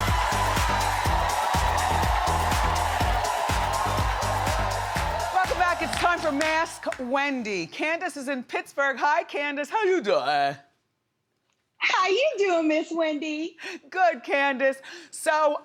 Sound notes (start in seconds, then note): 0.0 energetic music; 0.0 audience cheering